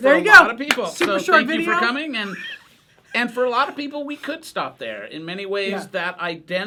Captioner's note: laughter